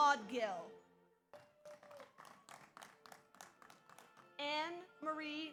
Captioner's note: audience applauds